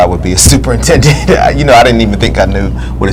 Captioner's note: laughs